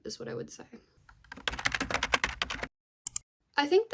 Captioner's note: typing noises